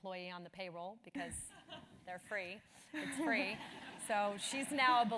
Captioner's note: laugh